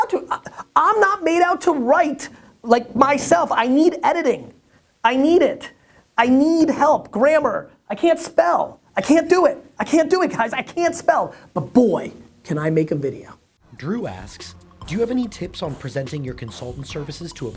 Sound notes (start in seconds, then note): 13.8 voiceover